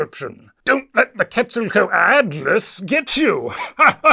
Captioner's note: laugh